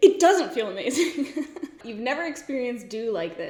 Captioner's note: laughs